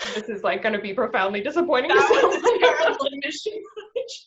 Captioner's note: laughs